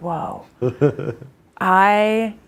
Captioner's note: instructor laughs